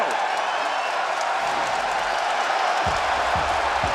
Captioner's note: crowd cheers